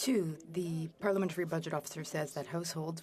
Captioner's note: speaking French